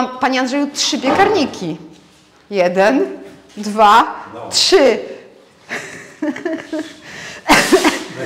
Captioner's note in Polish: śmiech